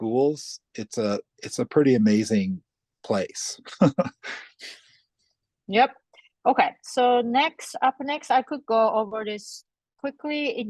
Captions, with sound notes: it's a pretty amazing place. (laughs) - Yep. Okay, so up next I could go over this quickly.